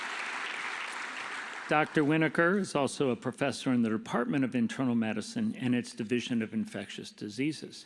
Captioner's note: applause